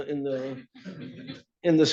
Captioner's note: laughter